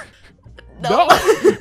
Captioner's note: laughs